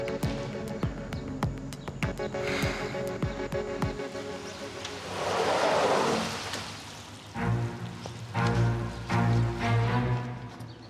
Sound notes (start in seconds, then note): 3.3 sighs; 5.6 doors whooshing; 7.3 suspenseful music